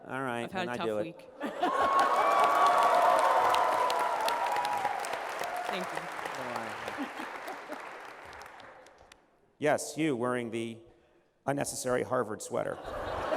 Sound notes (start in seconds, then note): 1.6 applause; 12.7 laughter